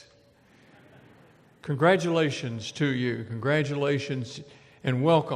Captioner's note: laughter